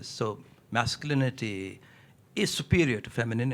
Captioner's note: none